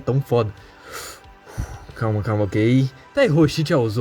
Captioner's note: breathe